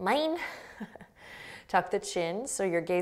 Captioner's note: laughing